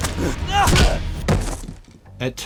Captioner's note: thud